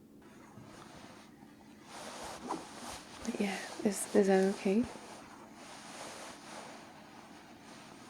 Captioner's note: suspicious shuffling